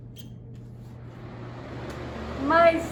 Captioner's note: fan whirring